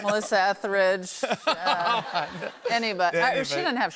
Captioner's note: laughter